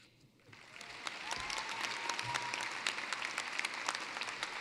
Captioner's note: applause